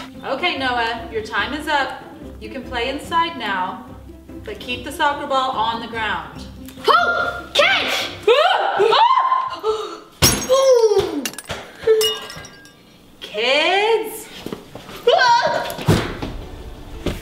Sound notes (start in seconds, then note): 8.2 police girls scream; 11.2 glass shattering